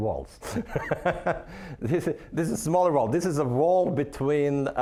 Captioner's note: laughing